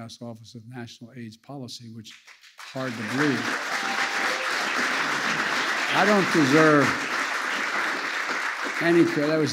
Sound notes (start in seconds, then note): 2.1 applause